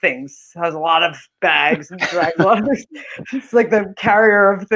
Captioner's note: laughing